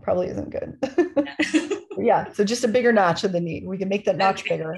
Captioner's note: laughter